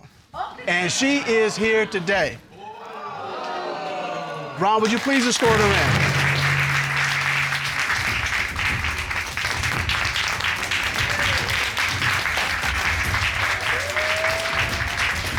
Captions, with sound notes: And she is here today. Ron, will you please escort her in? [applause]